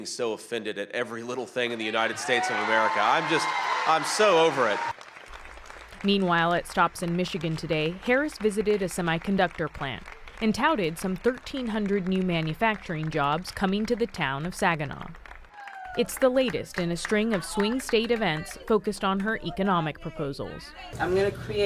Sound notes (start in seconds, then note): 6.0 cheering